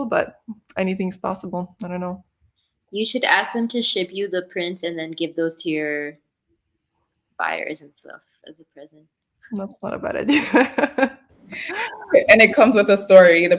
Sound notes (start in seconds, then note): 11.5 laughs